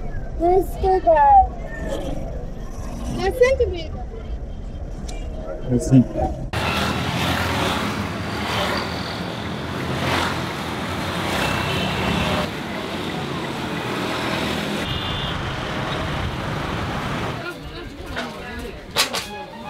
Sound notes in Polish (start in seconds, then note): 6.9 dźwięki ulicy